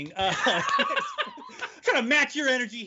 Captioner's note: laughing loudly